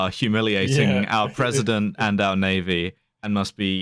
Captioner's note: laughs